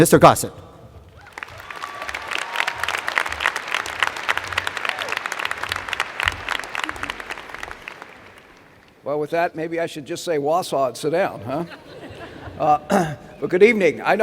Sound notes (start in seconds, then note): 2.4 applause